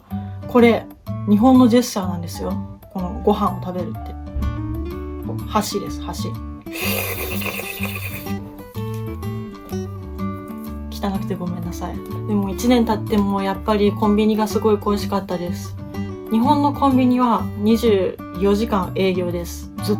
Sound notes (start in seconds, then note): 6.7 sound of slurping noodles